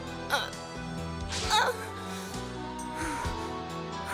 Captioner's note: grunts